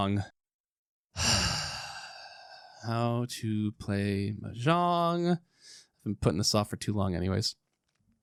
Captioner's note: large sigh